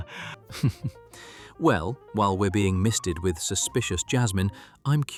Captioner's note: chuckling